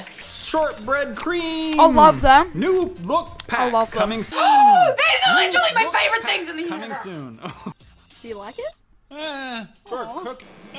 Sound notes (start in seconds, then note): 4.3 gasp